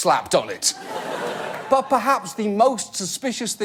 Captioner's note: audience laugh